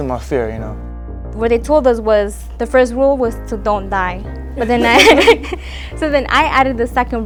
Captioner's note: laughter